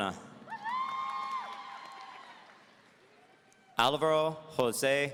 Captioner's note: audience cheering